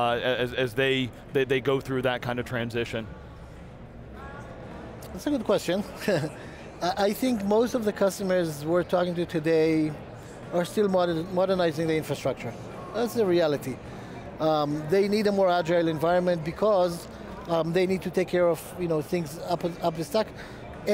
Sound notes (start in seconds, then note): 5.9 chuckles